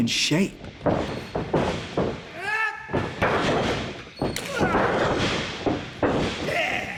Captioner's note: loud stomps, shouts, smacks, slamming